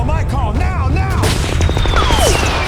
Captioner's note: gunshot blasts; bullets whizzing